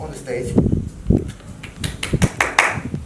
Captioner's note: clap